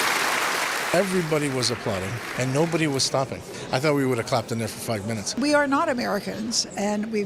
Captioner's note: applause